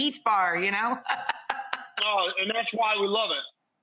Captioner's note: laughs